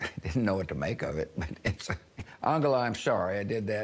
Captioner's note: chuckles